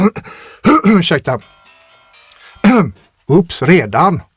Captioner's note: clears throat